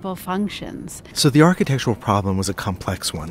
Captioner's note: voiceover